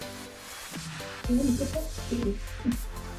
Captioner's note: laugh